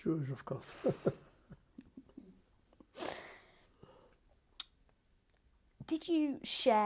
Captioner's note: laughs